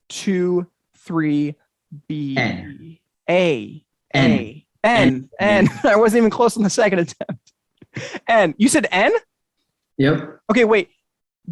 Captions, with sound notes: One, two, three, B- - N. - A. - N - I wasn't even close on the second (chuckles) attempt, you said N? Okay, wait.